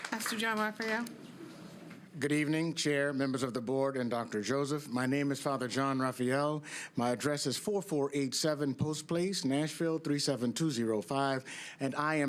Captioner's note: applause